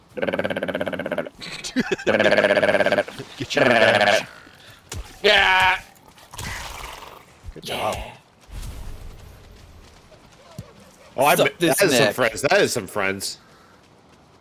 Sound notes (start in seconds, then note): 0.1 animal calls; 1.4 laughter; 5.3 screams